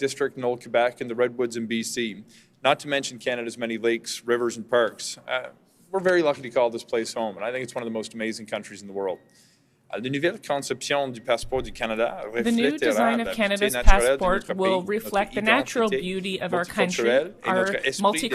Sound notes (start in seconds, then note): 14.9 speaking French